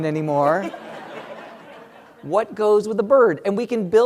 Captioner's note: laugh